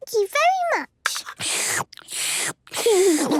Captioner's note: slurping; giggles